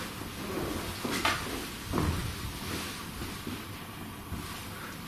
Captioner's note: footsteps and creaks